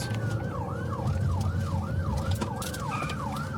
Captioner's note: siren wailing